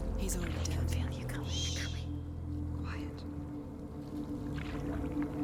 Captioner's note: hushed